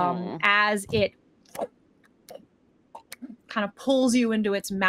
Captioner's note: imitates chomping